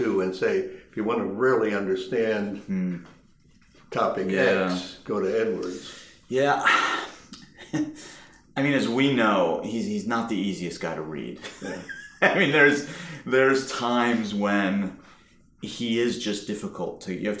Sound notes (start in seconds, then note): 6.6 chuckling; 11.4 laughing